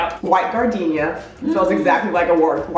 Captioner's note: gasping